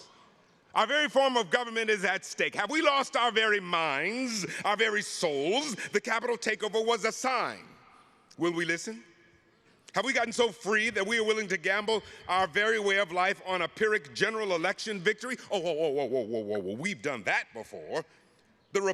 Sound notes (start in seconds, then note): none